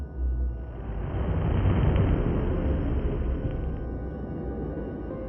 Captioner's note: explosion booming